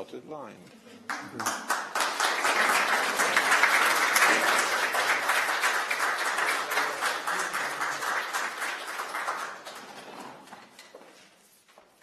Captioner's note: applause